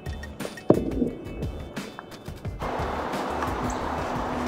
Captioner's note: upbeat music; tennis ball thumping